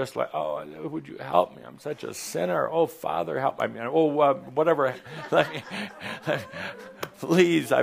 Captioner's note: laughs